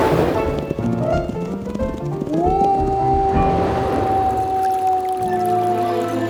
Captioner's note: wolf howles; water churns